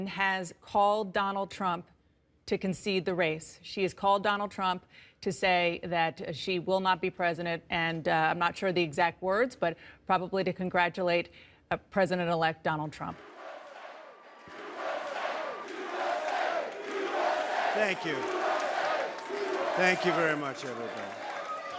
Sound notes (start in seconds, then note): 13.1 crowd chanting "USA!"; 21.6 crowd cheering